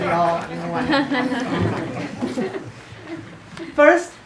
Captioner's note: class laughs